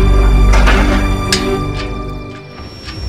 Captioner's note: Front-gate closing